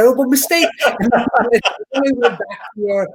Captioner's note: laughing